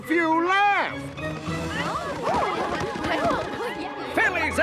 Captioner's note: all talking excitedly